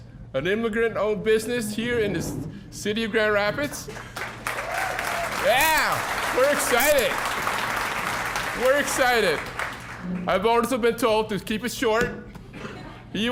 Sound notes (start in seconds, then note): 3.8 applause